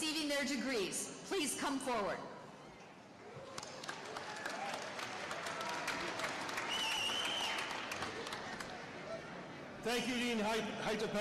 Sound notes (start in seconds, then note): 3.5 applause